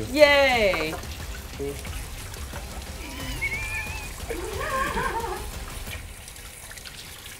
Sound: water running; laughing

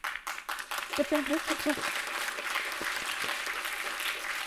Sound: audience applauding

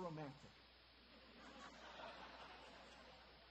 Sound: audience laughter

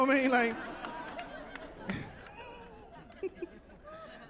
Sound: laughing

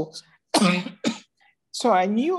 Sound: coughs

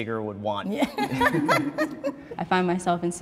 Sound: people laughing

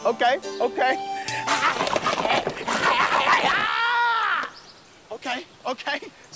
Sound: grunting

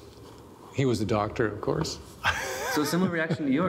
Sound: laughing

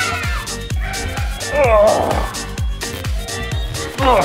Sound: groaning

